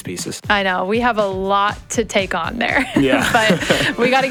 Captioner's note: laughs